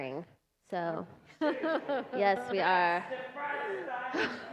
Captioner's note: laughter